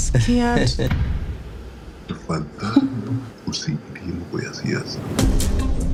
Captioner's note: speaking in foreign language; compelling music